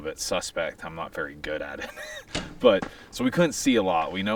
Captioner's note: laughs